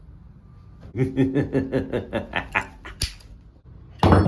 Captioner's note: Gadgetson laughs